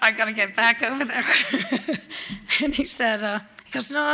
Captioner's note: laughs